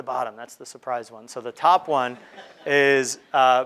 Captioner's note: crowd laughing